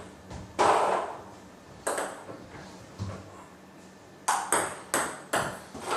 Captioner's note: balls ping pong hitting continues